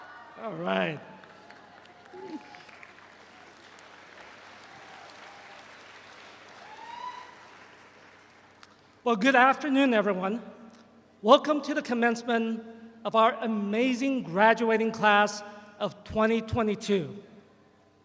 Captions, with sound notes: - All right. (all applaud) Well, good afternoon, everyone. Welcome to the commencement of our amazing graduating class of 2022.